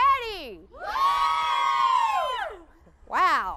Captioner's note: crowd cheers